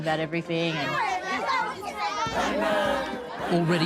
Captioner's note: children chattering happily